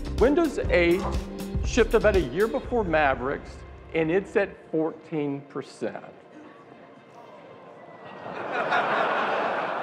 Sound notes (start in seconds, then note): 8.0 laughing